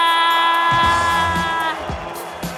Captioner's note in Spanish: Aplausos